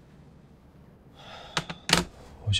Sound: sighing

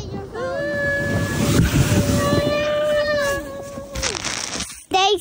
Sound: car whooshing; phone crunches

